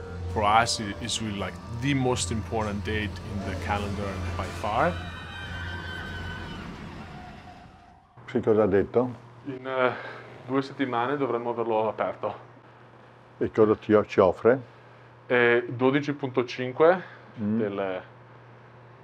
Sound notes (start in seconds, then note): 3.8 riders screaming; 8.2 foreign language